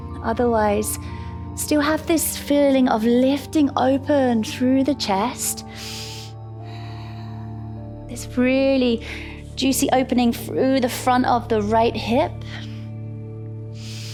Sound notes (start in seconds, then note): 5.6 exhales; 5.7 inhales; 12.8 calm music